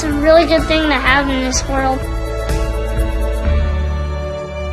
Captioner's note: applause